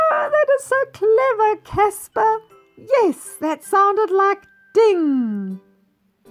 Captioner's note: ding